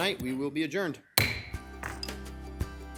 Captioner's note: gavel banging; upbeat music